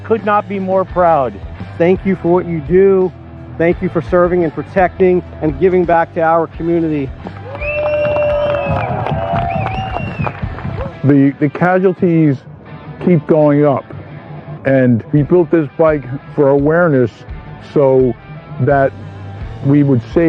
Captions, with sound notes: u hankou f whayou . Thank you for serving and protecting and vingackto o comnity [appuse] . And we built this bike for awareness so that